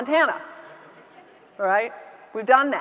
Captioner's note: audience members laughing